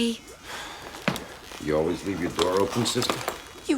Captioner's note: sighs